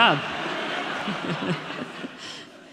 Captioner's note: audience laughing